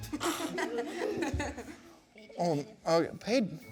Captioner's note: kids laughing